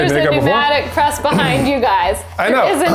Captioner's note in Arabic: ضحك